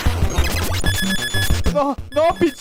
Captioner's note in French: bruit strident